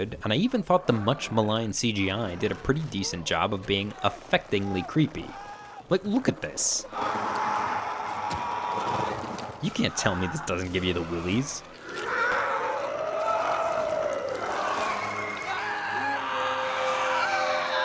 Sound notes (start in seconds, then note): 6.9 screaming; 12.0 screaming